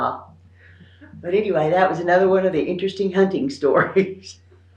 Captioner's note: laughs